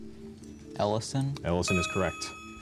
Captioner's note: buzzer